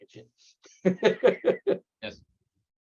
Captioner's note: laughing